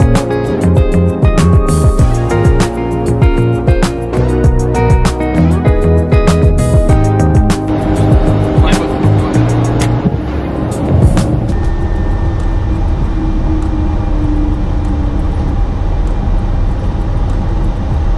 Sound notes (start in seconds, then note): 9.7 clicking; 12.2 aeroplane engine